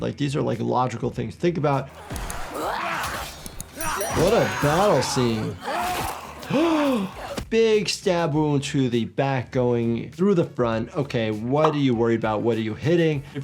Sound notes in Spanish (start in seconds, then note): 1.9 Senua y el enemigo gruñendo; 3.5 espadas chocando; 6.1 jadeando